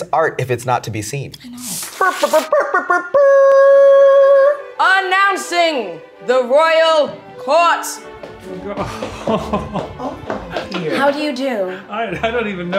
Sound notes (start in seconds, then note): 2.9 mimicking a trumpet blowing; 8.7 chuckling